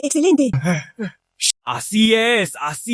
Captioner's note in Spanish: Suspiro